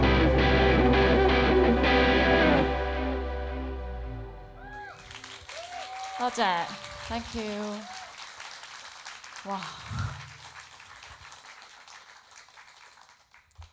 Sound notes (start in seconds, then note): 2.6 music stops; 5.4 applauds; 10.7 applauds